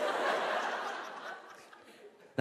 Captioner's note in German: Lachen